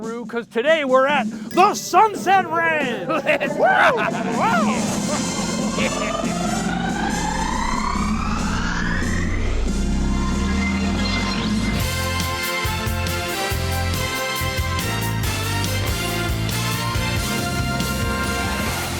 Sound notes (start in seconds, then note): 3.2 both yelling; 5.2 upbeat theme music